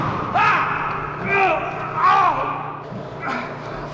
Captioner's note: screaming and groaning